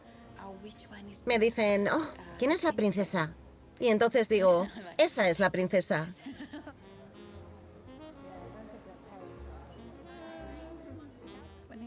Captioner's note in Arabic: يضحكون